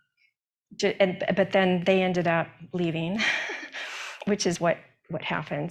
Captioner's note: laughs